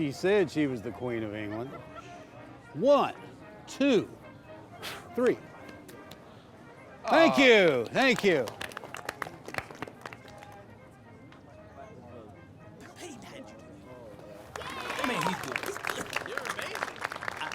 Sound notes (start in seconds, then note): 4.7 blowing; 6.3 tapping hands; 7.6 guest applauding; 14.4 group cheering and applauding